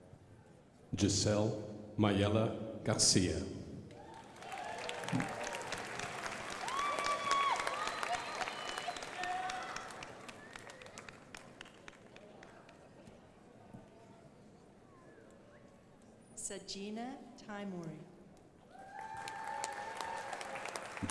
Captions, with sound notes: Giselle Mayela Garcia. (crowd applauding) Sagina Timone. (crowd applauding)